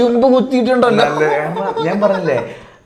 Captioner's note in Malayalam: തൊണ്ട ശരിയാക്കുന്നു